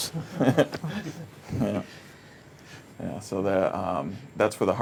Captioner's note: all laughing